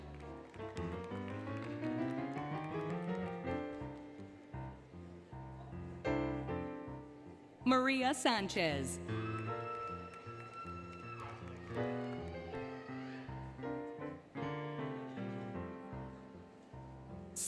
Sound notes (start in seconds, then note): 0.0 applause, Music; 9.0 applause, Cheering, Music